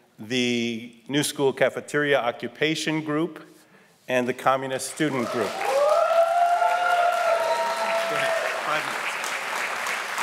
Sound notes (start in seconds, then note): 5.1 audience cheering and applauding